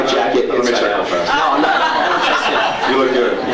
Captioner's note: laughs